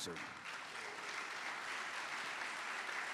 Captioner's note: applause